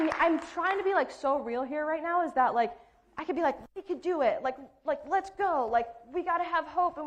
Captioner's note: applause